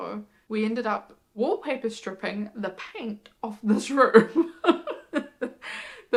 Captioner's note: laughs